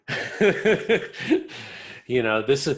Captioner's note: laughs